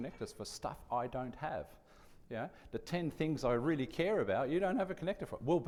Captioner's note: none